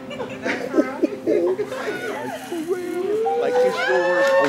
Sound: cheers and sobs

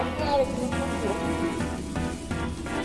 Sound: electronic static

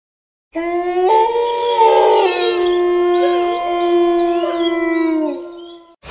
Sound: howling sound

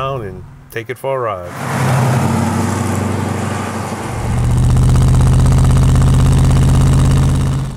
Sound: car engine roaring; car engine noises

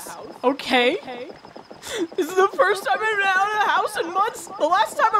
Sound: through tears

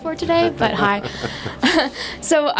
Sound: laughter

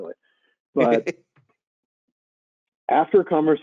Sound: laughing

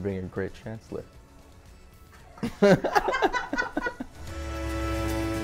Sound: laugh

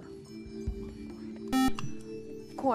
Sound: buzzer

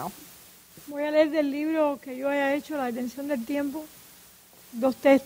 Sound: speaking in Spanish

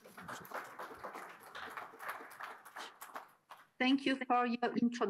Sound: audience applauding

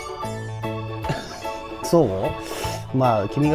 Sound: laughs

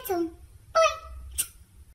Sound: smooch

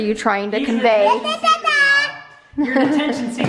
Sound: child mumbling

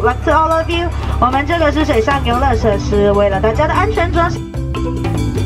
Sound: speaks foreign language; upbeat music

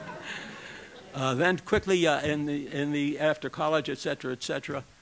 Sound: laughter

